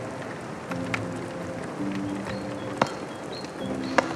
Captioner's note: tool tapping